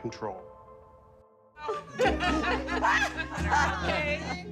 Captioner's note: shouts and laughs